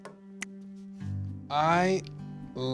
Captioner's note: fingers snapping